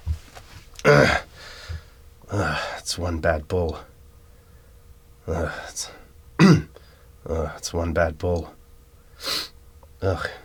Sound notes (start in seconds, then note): 0.8 clears throat; 2.5 sighs; 6.4 clears throat; 7.4 sighs; 9.2 sniffs